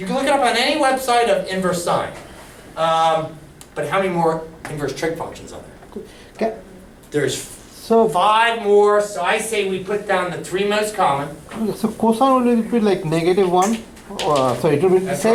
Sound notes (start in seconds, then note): 11.8 voiceover